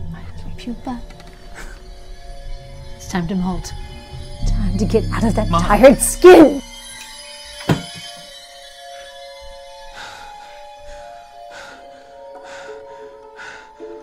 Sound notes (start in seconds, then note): 7.3 knife dropping; 10.1 Adam gasping